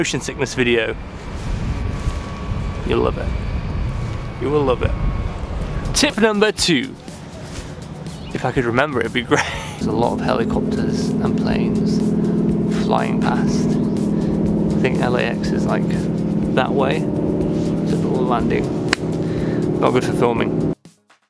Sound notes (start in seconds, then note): 9.3 laughter